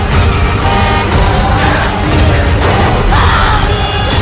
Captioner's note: rousing orchestral music; car horn blares; bell clanking